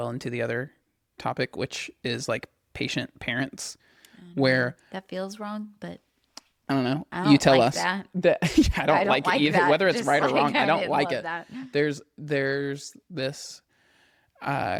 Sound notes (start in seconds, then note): 8.4 laughs